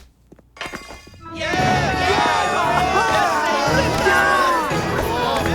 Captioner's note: cheering